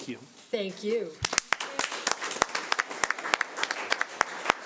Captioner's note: audience applauds